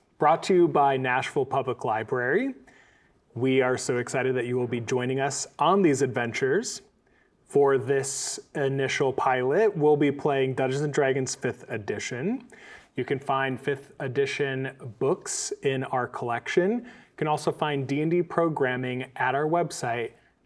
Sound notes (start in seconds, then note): none